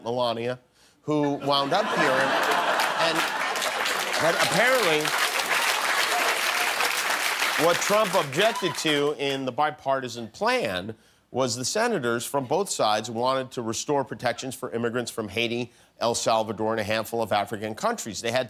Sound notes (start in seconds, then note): 2.9 laughter